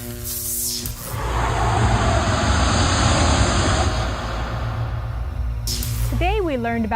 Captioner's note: sound Effects